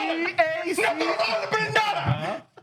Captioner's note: speaking Spanish